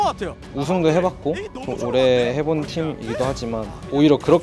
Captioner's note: BuZz